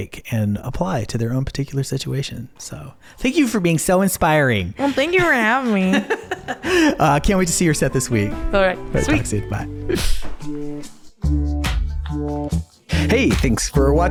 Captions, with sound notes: and apply to their own particular situation. Thank you for being so inspiring. Well, thank you for having me. (laughs) Can't wait to see your set this week. Sorry. Bye. (upbeat music) The Morse Code Podcast is produced by